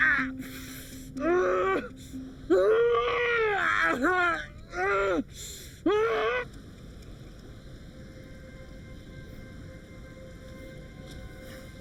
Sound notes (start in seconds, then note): 2.5 Jim groaning; 6.7 river brabbling; 7.6 ominous music